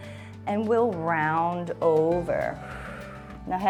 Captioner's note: inhales; exhales